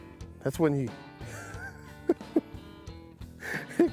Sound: chuckles

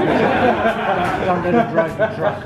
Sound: laughing

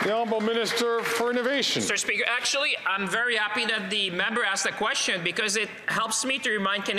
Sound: some Applause

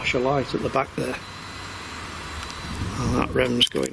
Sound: machine buzzes

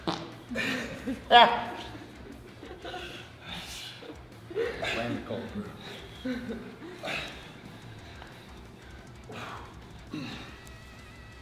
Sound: laugh

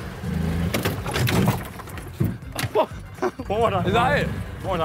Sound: car crashing

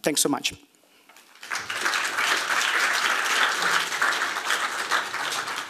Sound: applause

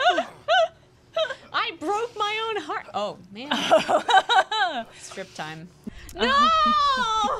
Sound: laughing

